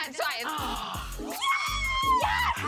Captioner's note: screams